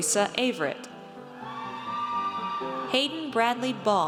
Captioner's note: audience cheers